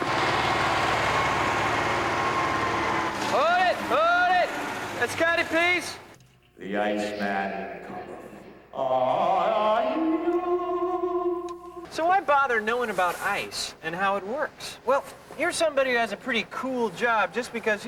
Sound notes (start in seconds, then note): 6.0 voice echoing